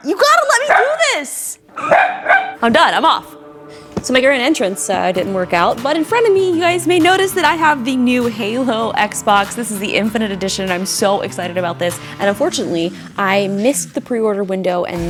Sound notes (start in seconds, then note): 1.7 Matty barking